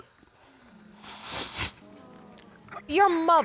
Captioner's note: sniffles